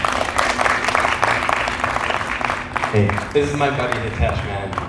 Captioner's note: audience applauds